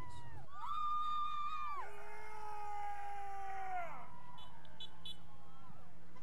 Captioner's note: vehicles honking; cadets cheering